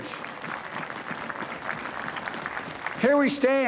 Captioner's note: applause